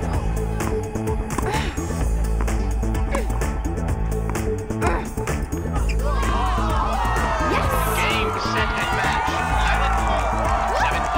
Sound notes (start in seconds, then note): 5.8 crowd exclaims